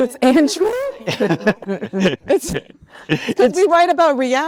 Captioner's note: attendees laughing